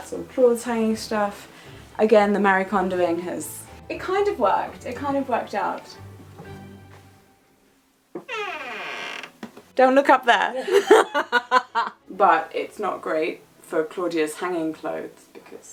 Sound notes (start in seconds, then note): 8.1 door creaking; 10.6 laughing